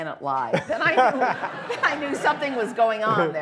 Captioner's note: laughter